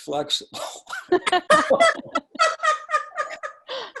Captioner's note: laughing